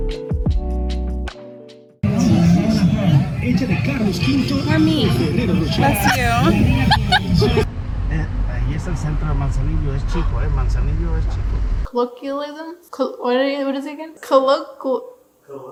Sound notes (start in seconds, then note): 6.7 laughs